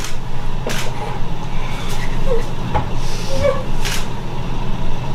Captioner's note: whimpering